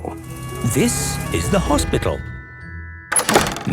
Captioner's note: siren sounding